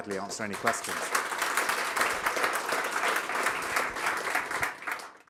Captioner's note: applause